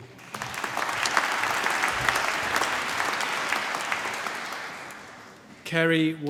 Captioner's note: applause